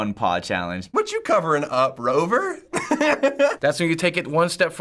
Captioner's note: laughing